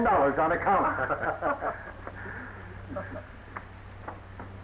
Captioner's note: laughing